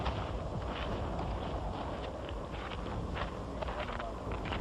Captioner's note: footsteps